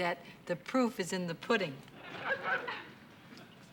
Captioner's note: laughter